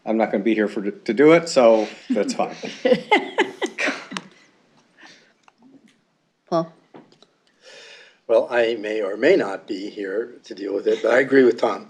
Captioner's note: laughter